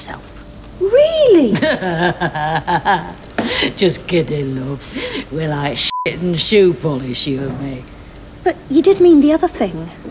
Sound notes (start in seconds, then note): 1.4 laughs